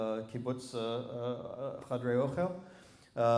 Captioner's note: non-english